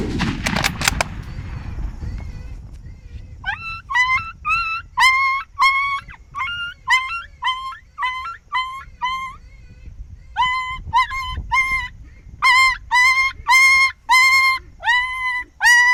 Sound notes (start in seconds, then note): 0.0 gun shot; 3.4 animal crying